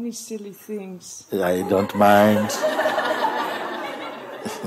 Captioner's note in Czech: smích